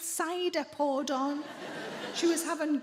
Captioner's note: audience laughs